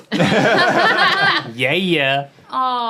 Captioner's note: everyone laughing